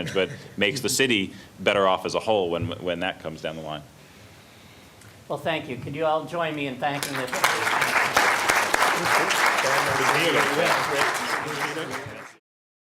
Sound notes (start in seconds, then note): 6.9 applause